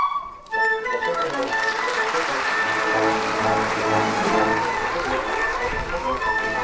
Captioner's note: applause